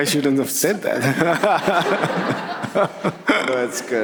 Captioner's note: laughs